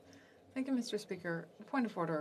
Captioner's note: speaking French